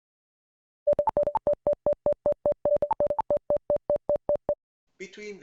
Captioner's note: slow beep